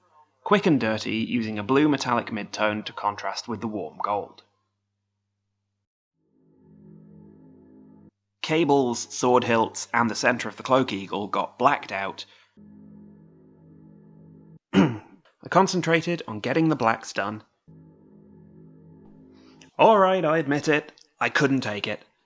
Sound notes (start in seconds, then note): 6.2 ominous chord; 14.7 clears throat